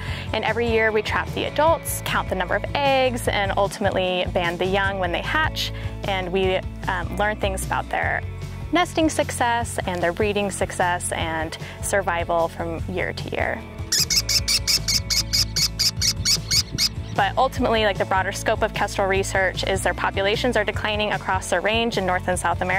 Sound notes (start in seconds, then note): 13.9 american Kestrel sounds